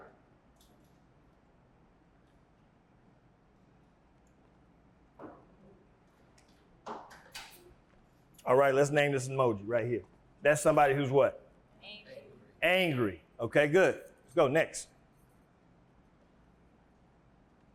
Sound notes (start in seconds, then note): 1.0 silence